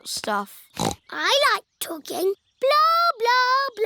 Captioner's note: snorts